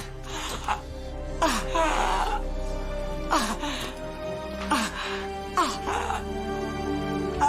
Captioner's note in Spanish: Quejidos